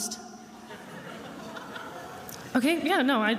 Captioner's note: attendees laughing